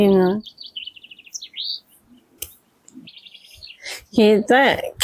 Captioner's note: birds chirpping